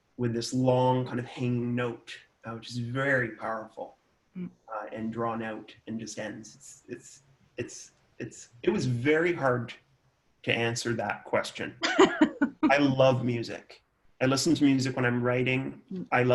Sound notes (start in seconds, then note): 11.8 laughs